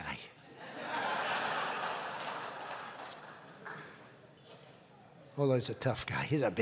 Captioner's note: laughter